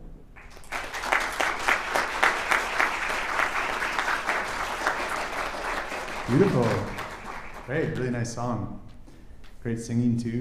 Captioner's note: applause